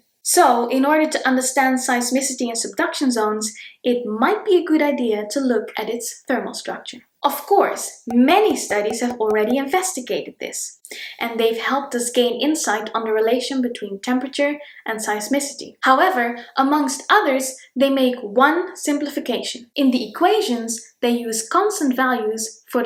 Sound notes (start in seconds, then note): 8.1 bubbles pop